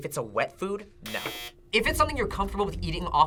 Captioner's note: buzzer